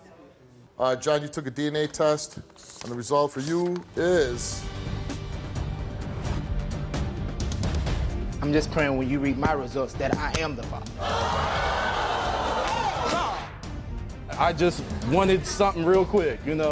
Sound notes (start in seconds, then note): 4.5 dramatic theme music; 11.0 audience yells